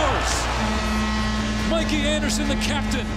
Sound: horn blows

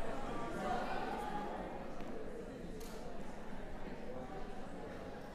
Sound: background conversations

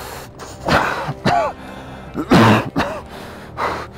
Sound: coughing

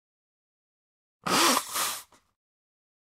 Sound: blowing

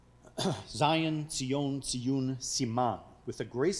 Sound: speaking foreign language

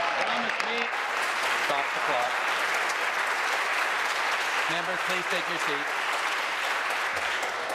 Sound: applause

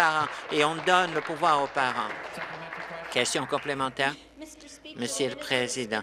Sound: applause

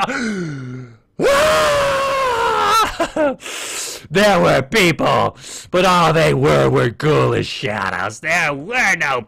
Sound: inhales

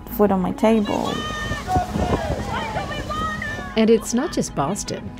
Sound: crowd chanting

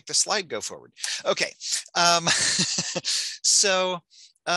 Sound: laughs

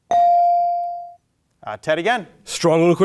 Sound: bell ringing

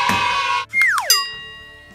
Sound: comedy bell for idea rings sound effect

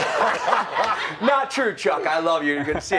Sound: laughter

